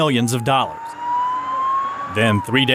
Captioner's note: police siren